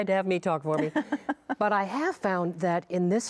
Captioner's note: laughing